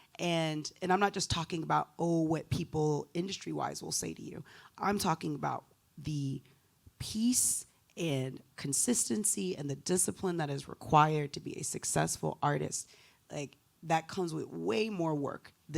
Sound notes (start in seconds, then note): none